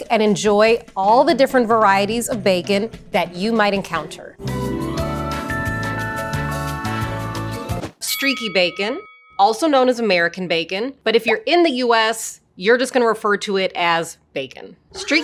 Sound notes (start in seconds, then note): 4.4 bright music; 8.0 bell rings